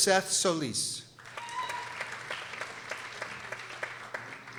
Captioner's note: people applauding